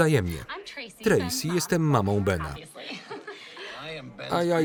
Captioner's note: laughs